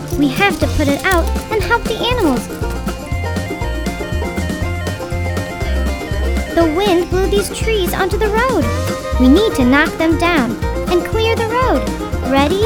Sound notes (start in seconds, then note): 2.6 upbeat music; 2.9 siren wailing